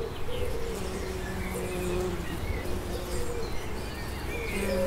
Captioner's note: buzzing of bees, chirping of birds